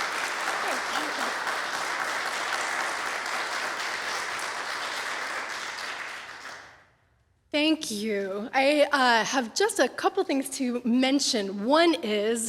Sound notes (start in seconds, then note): 0.0 over applause; 2.4 applause continues; 5.0 applause fades